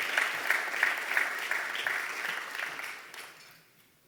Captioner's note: applause